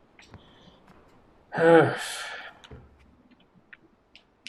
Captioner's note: sighing